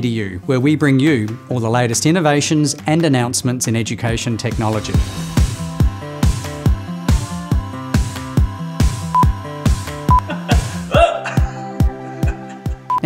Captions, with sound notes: where we bring you all the latest innovations and announcements in education technology. (upbeat music) (beep) (laughter)